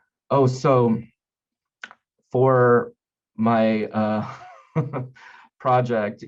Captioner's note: chuckling